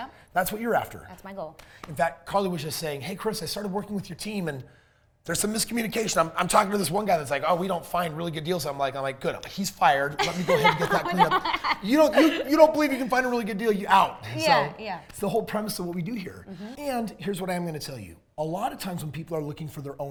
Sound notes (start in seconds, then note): 10.1 laughs